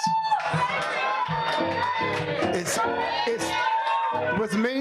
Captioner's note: audience cheering